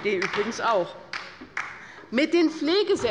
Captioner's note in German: Beifall bei der LINKEN